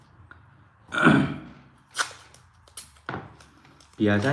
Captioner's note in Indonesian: berdehem